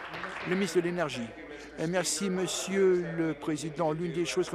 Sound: applause

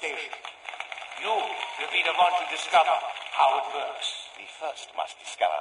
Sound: Applause for Dr. Groph is heard; applause ends

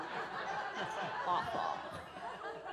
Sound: audience laughs

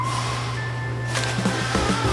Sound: guitar and whistling; money crumpling; guitar and whistling

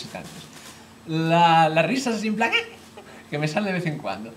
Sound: monkey laugher

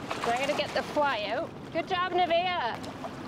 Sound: water gently rippling

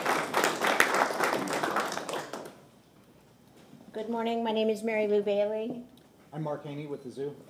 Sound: applause

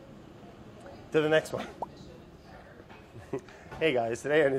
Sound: laughs

